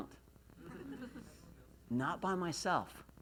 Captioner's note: laughs